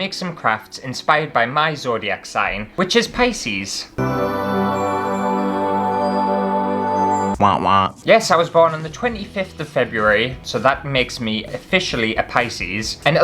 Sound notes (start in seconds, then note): 3.9 heavenly Music; 7.4 wonk Wonk